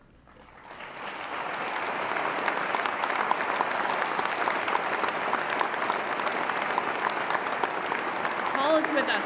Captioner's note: applause